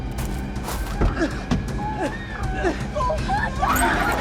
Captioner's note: gasping